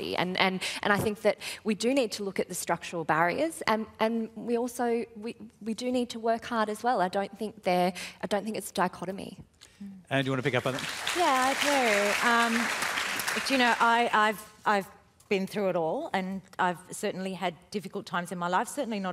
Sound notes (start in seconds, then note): 10.2 applause